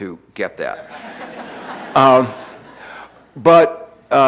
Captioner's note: audience laughing